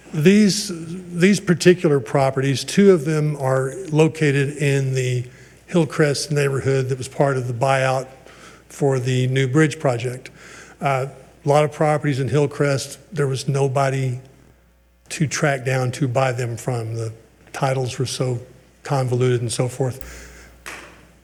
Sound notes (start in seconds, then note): none